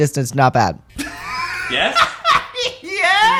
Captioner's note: laughter